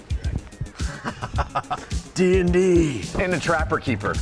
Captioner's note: laughs